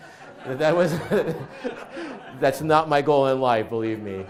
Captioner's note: audience laughs